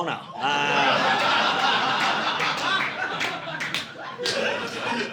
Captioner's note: audience laughing